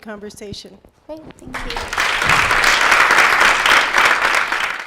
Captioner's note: applause